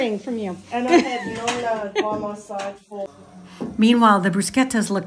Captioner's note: people chattering